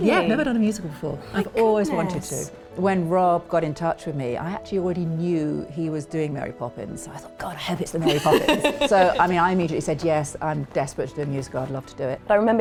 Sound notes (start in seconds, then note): 8.0 laughing